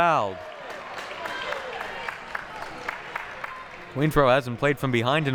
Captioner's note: audience applauding